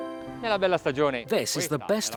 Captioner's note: speaking Italian